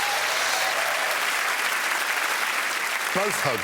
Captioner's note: audience clapping